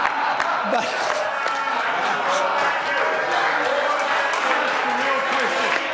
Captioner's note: members laugh